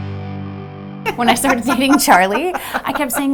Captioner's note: laughs